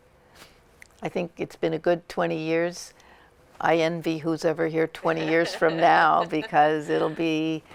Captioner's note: laughter